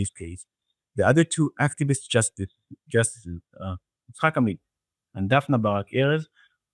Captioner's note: speaking in foreign language